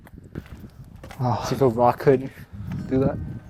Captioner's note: break window